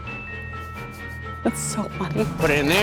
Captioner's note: laughs